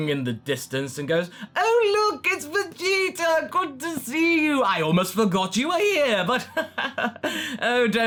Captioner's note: chuckles